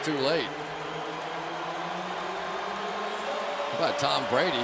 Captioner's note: pa announcement